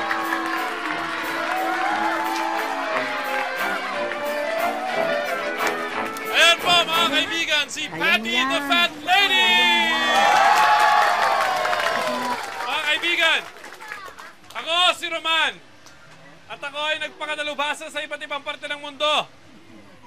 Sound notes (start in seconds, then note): 9.1 cheering